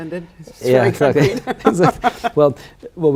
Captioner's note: laughing